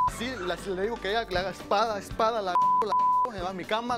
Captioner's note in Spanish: Bip